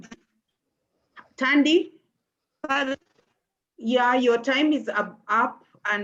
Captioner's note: distorted audio